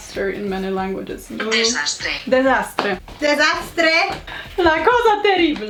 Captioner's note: Google translate voice speaks